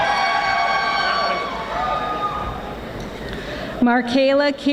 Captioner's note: audience applauding